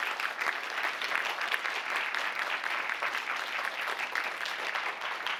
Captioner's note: applause